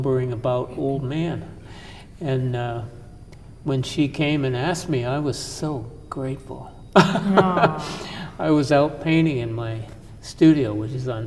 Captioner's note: laughter